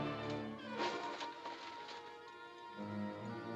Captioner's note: dramatic ominous music; thump